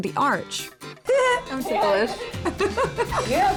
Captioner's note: giggling